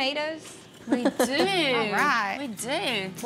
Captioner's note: chuckling